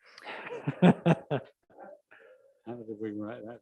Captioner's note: laughing